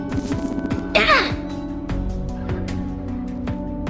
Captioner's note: Coughs up a beedrill